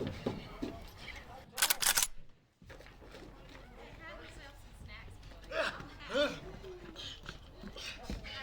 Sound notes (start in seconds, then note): 1.6 gun cocking